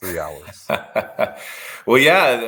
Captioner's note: laughing